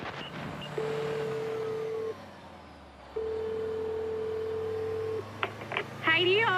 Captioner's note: radio static; line trilling